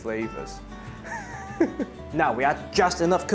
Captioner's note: chuckles